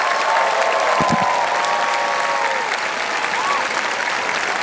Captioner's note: audience cheering; audience clapping